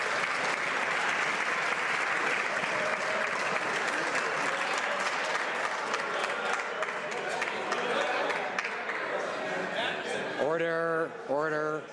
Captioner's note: some Applause